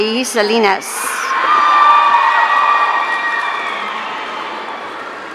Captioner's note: audience cheering